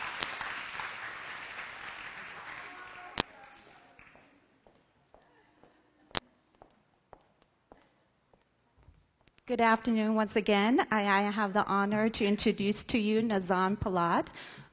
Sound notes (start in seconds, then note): 0.0 applause; 3.7 silence